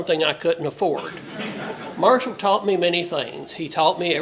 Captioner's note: laugh